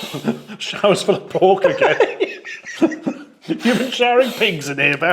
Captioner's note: laughs; giggles